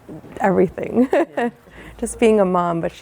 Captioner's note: chuckling